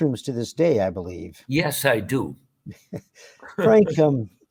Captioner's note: laughter